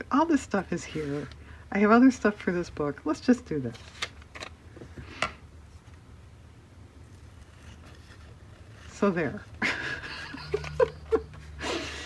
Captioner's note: laughs